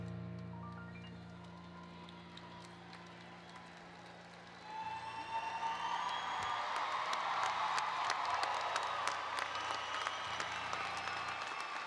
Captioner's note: applause and Cheering